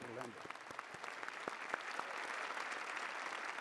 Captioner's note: applause